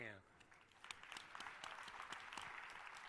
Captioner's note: applause